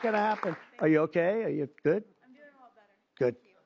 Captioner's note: applause